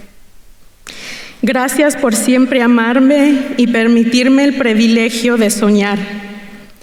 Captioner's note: continues speaking in Spanish